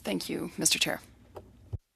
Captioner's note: speaking French